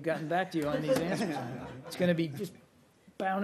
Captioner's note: laughter